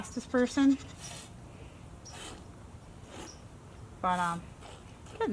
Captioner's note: milk squirting into bucket